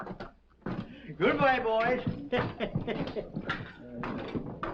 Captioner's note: chuckling